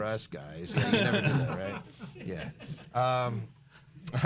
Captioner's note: laughing